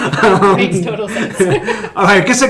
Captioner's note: laughing; laughs